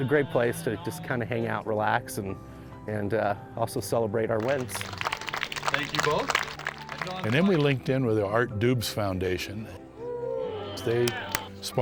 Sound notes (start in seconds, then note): 4.4 clapping